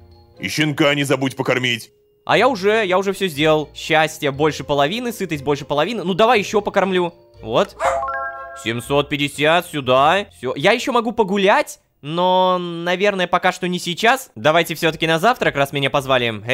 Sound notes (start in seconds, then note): 7.7 dog's barks